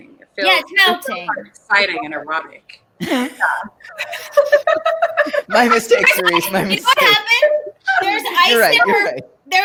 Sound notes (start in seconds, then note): 3.0 laughs